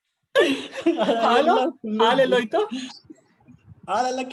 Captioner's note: still chuckling